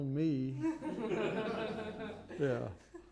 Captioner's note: laughter